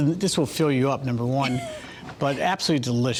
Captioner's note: laughs